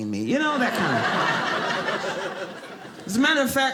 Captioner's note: audience laughing